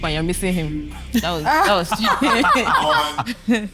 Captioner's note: laughs